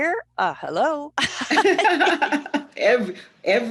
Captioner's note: laughter